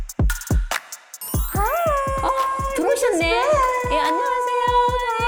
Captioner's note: entrance sound effect